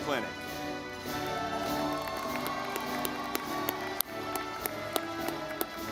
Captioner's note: audience clapping